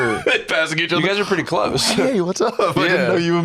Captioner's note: laughing